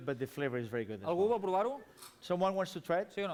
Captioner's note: non-english speech